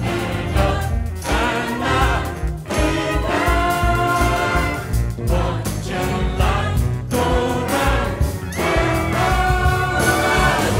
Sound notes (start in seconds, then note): none